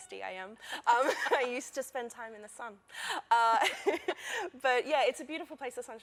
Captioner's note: laughter